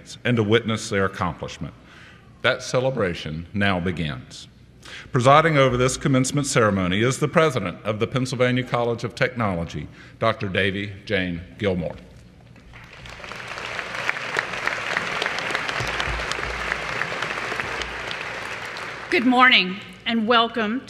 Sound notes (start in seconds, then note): 12.7 applause